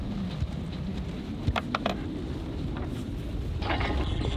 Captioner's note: wind blowing